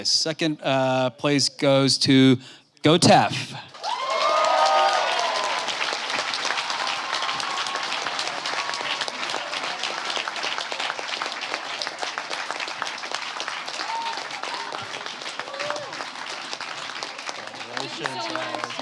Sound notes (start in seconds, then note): 3.5 applause